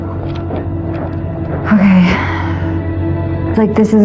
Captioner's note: exhxhala